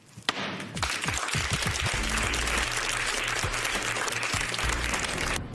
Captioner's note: applause